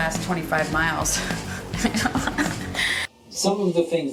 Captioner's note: laughs